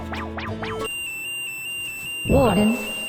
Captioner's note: alarm blares